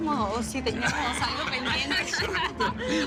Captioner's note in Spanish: Risas